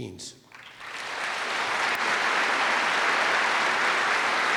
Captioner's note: applause